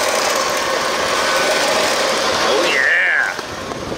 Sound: machine engine roaring

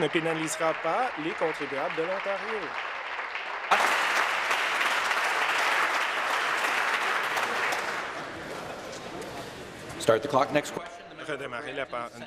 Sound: applause

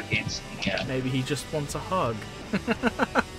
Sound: laughter

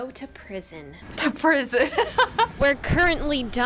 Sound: laughs

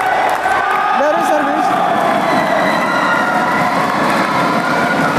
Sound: applause

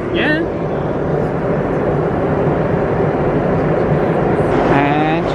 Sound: engine rumbling continues

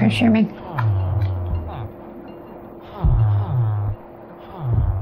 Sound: villager noises

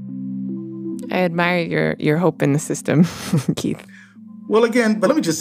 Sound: chuckles

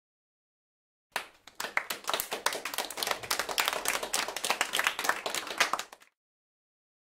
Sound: sound of applause

